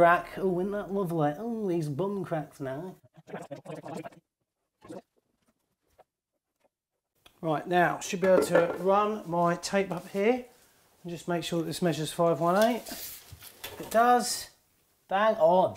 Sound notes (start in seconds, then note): 3.2 sped up talking